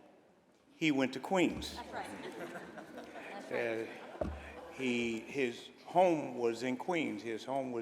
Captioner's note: laughter